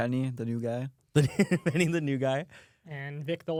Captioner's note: laughs